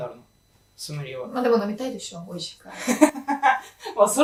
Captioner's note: laughing